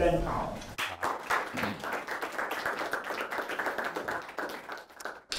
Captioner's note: audience applauding